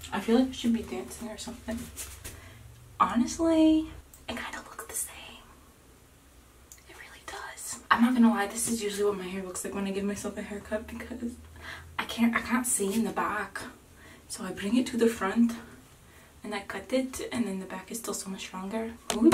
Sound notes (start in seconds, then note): 3.7 whispering; 12.4 with an accent